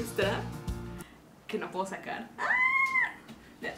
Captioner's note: screams